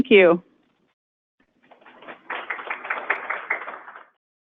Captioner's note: audience applauds